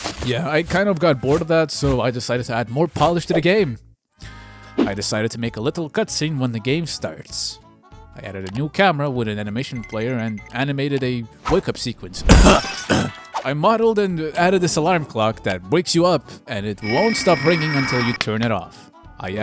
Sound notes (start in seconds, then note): 12.4 coughs in portal 1